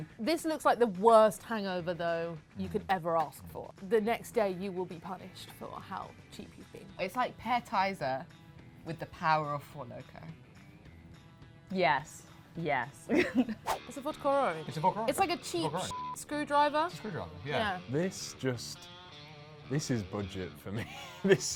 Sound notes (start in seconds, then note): 15.8 beep